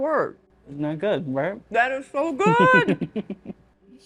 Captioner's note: laughing